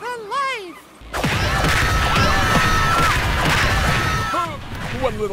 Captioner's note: screaming